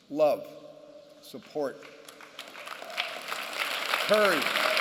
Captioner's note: applause